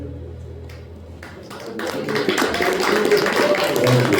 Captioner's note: applause